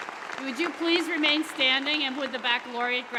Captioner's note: applause